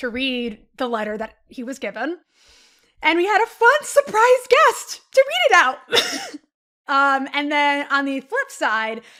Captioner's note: chuckles